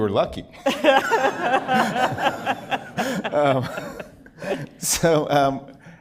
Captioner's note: laughter